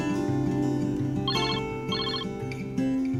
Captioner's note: phone ringing